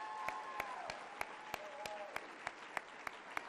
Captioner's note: cheering and applause